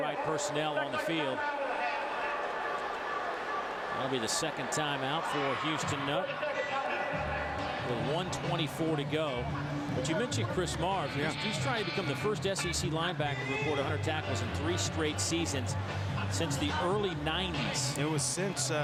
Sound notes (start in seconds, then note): 4.5 crowd noise; 17.0 crowd noise